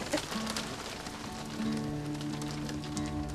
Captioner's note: laughs